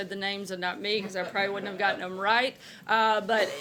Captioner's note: laughter